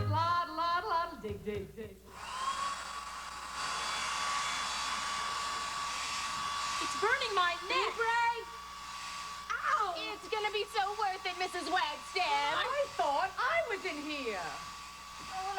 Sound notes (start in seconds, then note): 2.1 hairdryer blowing